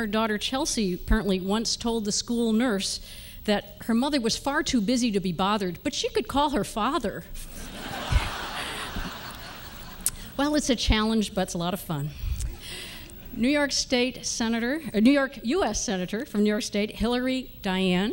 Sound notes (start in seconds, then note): 7.5 laughter